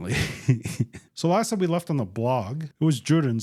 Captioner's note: laughs